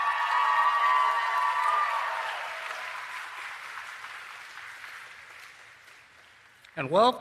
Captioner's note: applause and Cheering